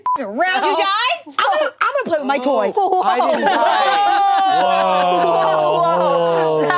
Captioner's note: beep; group exclaiming